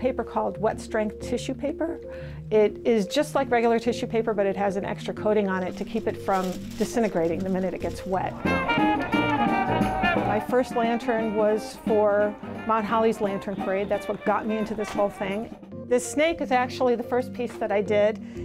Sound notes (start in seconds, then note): 5.6 paper rustling; 8.6 bright jazz music